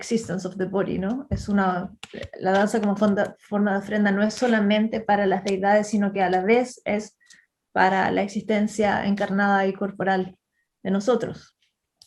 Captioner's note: speaks in Spanish